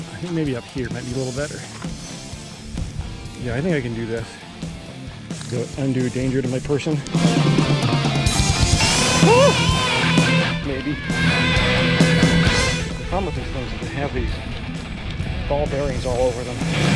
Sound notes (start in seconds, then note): 8.8 high-pitched yelp; 9.0 feet sliding